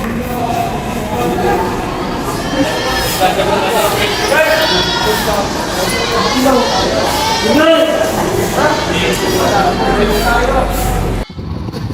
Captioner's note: laughing and making fun of eachother